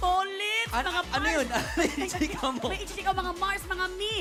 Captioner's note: laughs